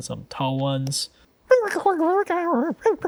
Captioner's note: Pengu indistinct chattering